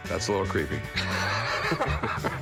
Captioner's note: laughter